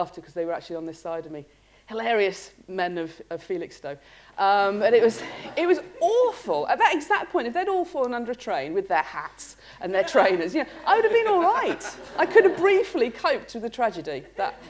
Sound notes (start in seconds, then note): 5.1 laughter